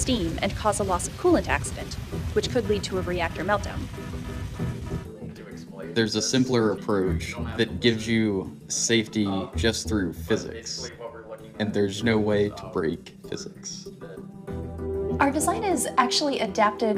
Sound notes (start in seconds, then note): 2.7 alarm sounds